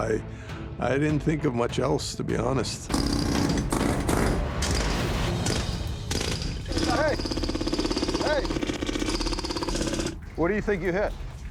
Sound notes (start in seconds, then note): 2.9 jackhammer whirring; 5.4 jackhammer straining